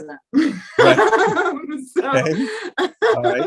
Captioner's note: both laugh